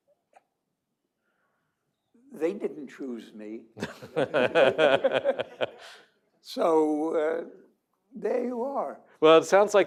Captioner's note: laughter